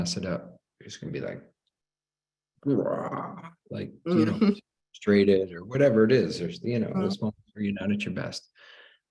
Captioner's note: growling